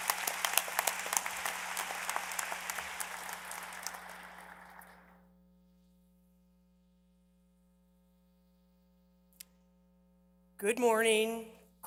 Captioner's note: applause